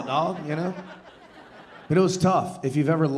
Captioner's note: audience laughing